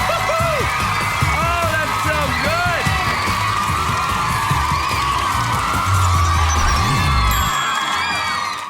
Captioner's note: audience cheering